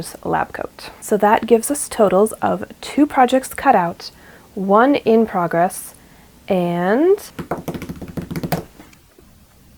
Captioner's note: drums on table